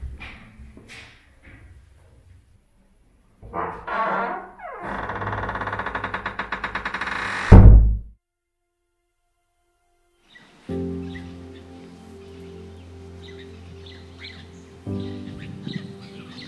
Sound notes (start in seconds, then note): 3.4 door creaks; 11.3 gentle orchestral music